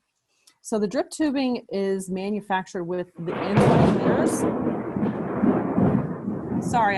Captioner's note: thunder